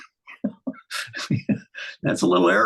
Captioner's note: laughing